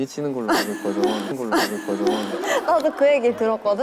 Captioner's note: gasp